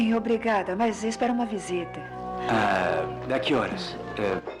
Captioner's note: cat Meows